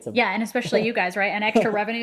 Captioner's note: laughs